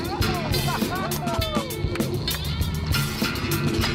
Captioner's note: cheering